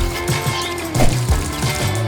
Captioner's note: scrubber squeaks; solution splashes; water pattering